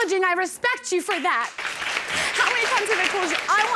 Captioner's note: audience applauding